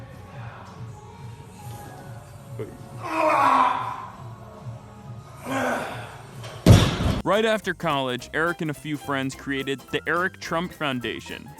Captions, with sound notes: [DON JR. GRUNTING] Right after college, Eric and a few friends created The Eric Trump Foundation,